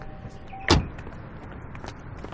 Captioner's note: car door closing